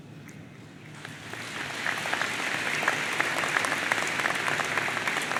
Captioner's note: audience applauds